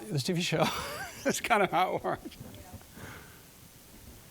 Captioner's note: laughing